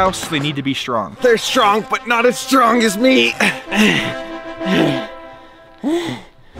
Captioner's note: pants